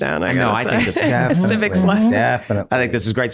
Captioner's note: laughing